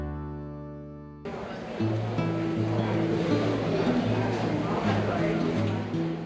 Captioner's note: customers chattering